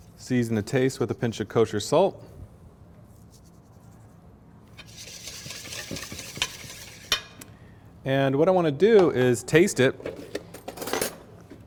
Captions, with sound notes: Season to taste with a pinch of kosher salt. [whisking sounds] And what I want to do is taste it.